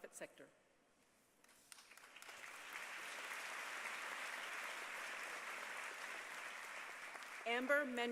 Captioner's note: applause